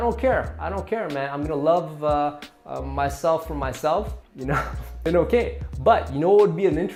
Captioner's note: laughing